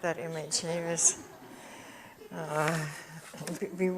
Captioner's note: audience chuckles